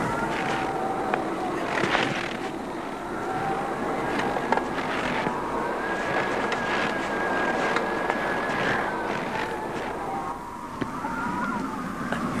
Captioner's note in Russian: тяжелое дыхание